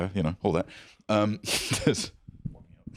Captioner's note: laughs